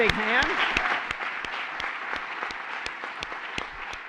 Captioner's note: applause